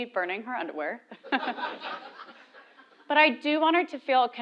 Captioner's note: laugh